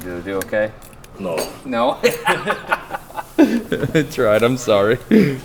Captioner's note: Destin laughing